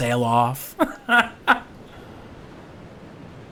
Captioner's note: laughs